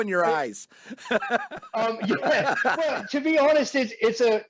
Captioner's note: laughing